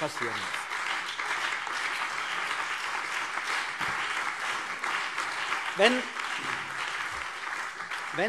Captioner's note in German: Beifall CDU und BÜNDNIS 90/DIE GRÜNEN